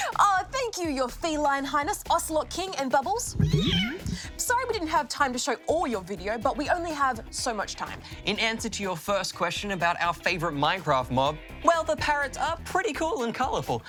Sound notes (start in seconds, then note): 3.3 cat miaows